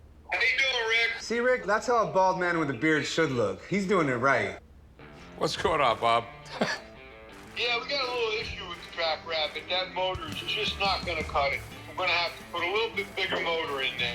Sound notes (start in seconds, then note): 5.9 laughs